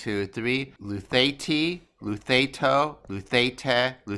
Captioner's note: speaking greek